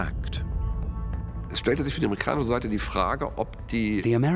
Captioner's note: speaking German